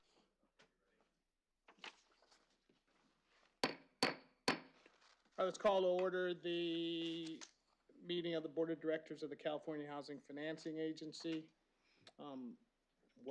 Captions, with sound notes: [POUNDING GAVEL] All right. Let's call to order the meeting of the board of directors of the California Housing Financing Agency.